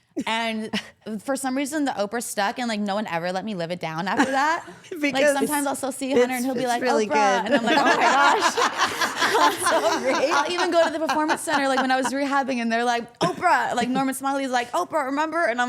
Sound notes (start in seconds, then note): 7.2 everyone laughs